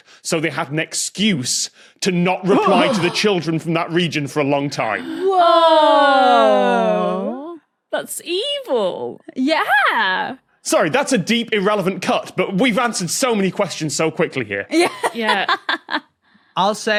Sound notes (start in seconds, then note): 5.0 guests aww; 14.8 laughs